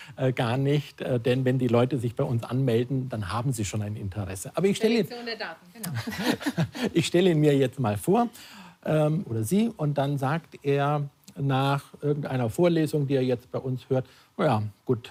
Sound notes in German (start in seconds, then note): 5.8 lacht